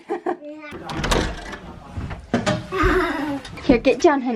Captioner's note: door opening